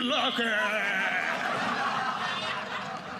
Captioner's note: audience laughing